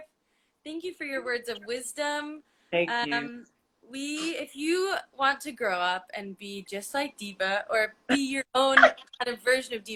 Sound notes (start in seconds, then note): 8.4 laughs